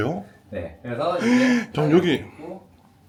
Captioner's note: gasps